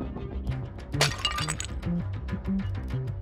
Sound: shatter

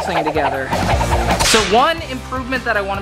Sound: cartoonish whooshing

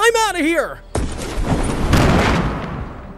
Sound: launchpad thudding; grenade explodes

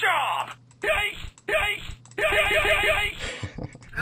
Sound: yaiks!!

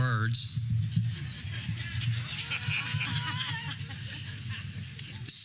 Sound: audience laughter

